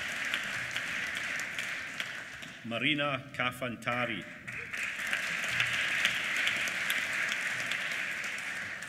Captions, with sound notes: Marina Kafantari. (APPLAUSE)